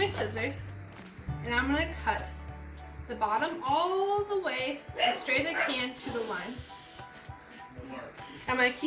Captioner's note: dog barks in background